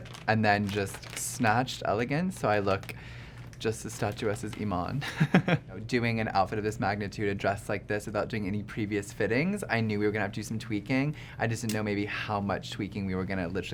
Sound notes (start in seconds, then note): 4.6 laughs